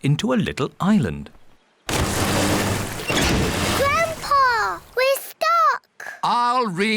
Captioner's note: rumbling